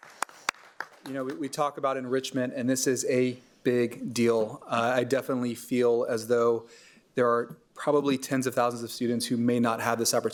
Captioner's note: applause